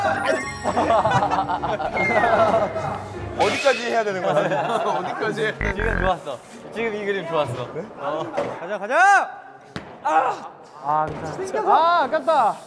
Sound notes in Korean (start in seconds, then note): 5.6 삑- 방송입니다